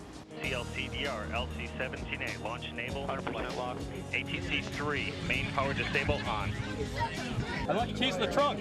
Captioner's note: launch control speaking over intercom